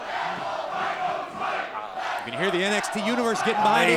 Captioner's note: crowd chanting